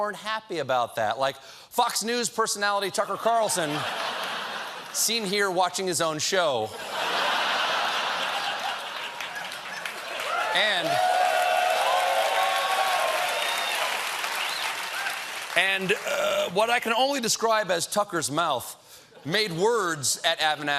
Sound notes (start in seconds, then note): 6.3 cheers and applause; 6.7 laughter